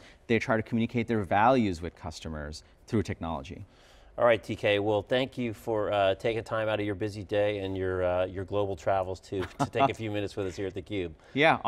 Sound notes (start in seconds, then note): 9.4 laughs